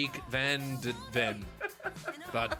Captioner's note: beeg laff